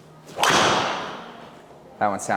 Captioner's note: golf club hits ball